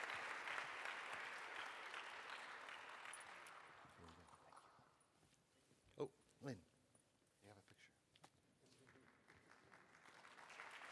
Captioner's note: applause